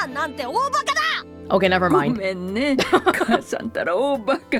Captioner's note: chuckles